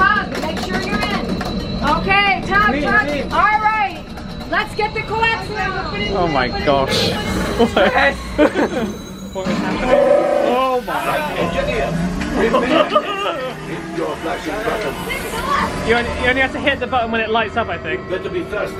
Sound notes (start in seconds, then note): 10.4 Loud machine noises and Chewbacca roaring; 12.4 laughing in excitement